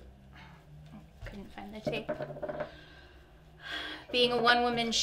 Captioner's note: sighs